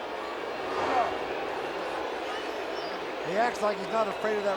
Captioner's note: crowd booing